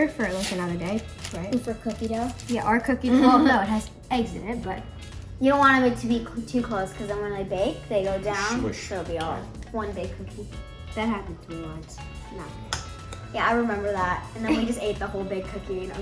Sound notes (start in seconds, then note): 3.1 chuckles